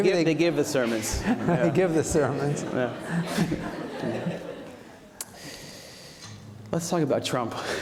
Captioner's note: chuckles